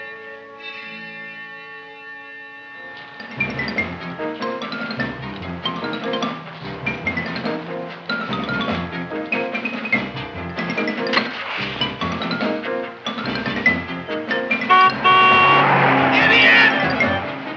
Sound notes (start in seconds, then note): 3.0 upbeat music; 14.6 horn honking